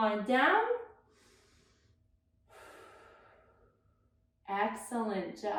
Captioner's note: breathing deeply